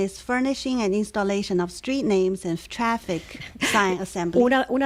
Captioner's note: Hablando ingl\s